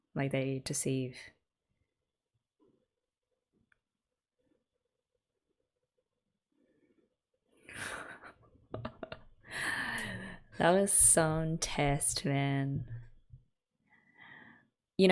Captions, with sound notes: Like they deceive. [laughs] That was some test man.